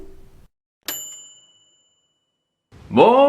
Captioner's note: ping